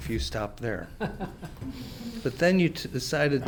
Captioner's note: Francis laughs